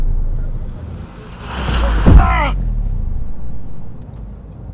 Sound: screaming

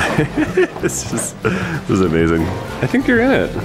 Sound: laughing

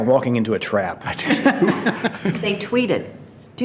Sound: board members laughing

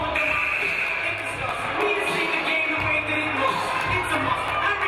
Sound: game buzzer buzzes

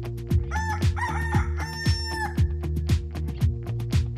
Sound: rooster crows

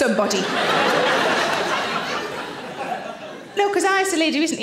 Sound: audience laughing

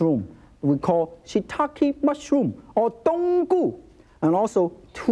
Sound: speaks foreign language

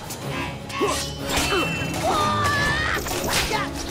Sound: grunting

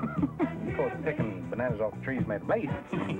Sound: man laughs

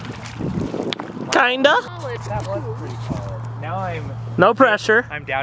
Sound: water splashing; group chattering

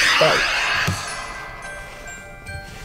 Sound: steam whooshes

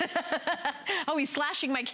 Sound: laughter

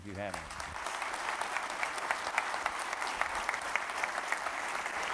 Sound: audience applauds

